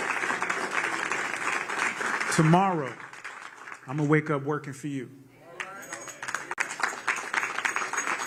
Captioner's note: applause